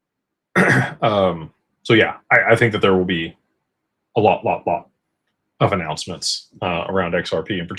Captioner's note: clears throat